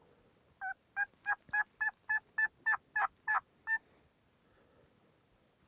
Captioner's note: turkey calling in the distance